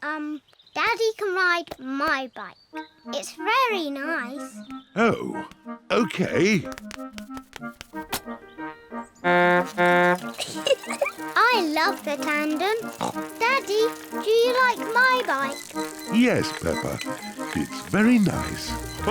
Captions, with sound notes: Um, Daddy can ride my bike. It's very nice. Oh. Okay. (TOOTS HORN AND GIGGLES) I love the tandem. (SNORTS) Daddy, do you like my bike? Yes, Peppa. It's very nice.